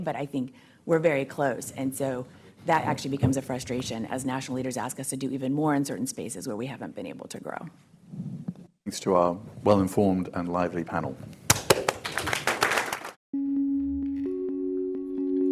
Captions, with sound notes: but I think we're very close. And so that actually becomes a frustration as national leaders ask us to do even more in certain spaces where we haven't been able to grow. - Thanks to our well-informed and lively panel. (audience applauding)